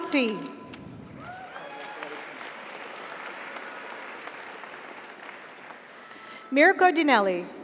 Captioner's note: audience applauds; audience cheers